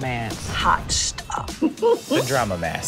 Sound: laughs

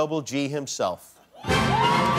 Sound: applause

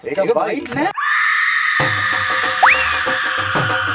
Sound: screams

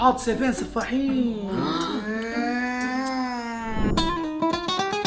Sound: gasps

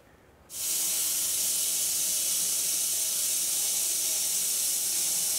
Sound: machine whirring

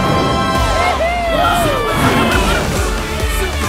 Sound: cheering

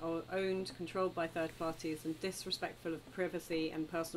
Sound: none

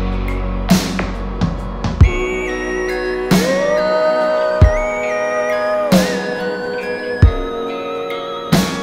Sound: vocalizing

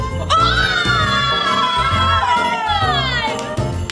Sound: cheering

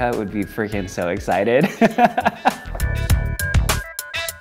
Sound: laughing

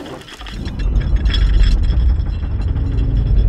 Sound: deep rumbling

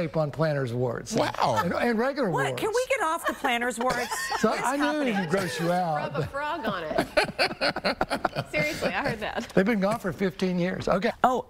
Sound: laughter

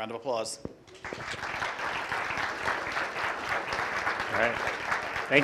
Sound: applause

